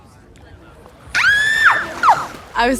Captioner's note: cassie shrieks excitedly